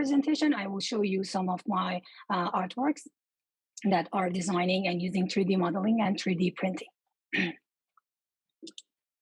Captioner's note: cough